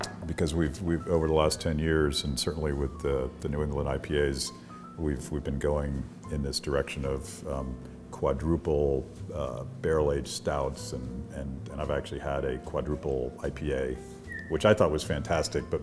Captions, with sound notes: because we've over the last ten years and certainly with the New England IPAs we've been going in this direction of quadruple barrel aged stouts and I've actually had a quadruple IPA. (whistling) Which I thought was fantastic,